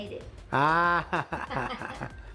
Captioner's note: laughs